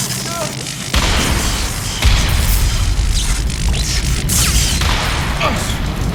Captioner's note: electricity zapping